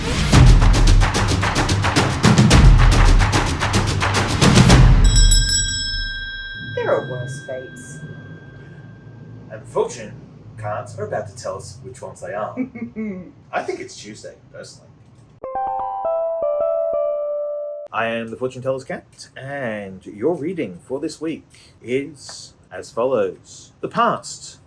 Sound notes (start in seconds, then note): 0.4 upbeat music; 12.5 giggles; 15.7 eerie music plays